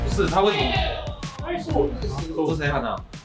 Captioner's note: team next door screaming "NICE"